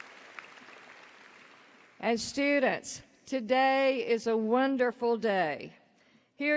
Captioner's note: applause